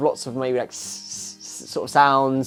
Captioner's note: imitates shaker